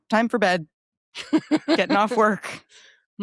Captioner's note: laughs